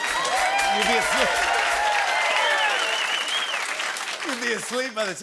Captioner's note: cheers and applause